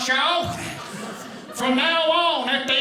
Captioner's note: audience laughing